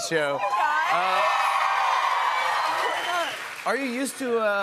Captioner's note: cheers and applause